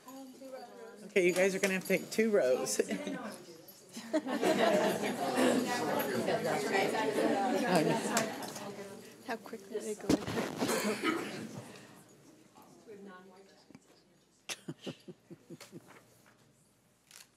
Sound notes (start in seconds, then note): 3.9 girls laughing; 12.9 speaking faintly